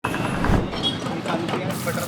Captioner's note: fire whooshing; egg sloshing